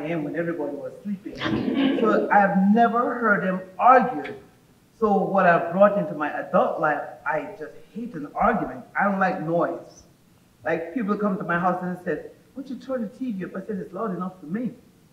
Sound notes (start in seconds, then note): 1.4 audience laughing